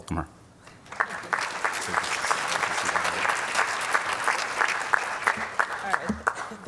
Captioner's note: applause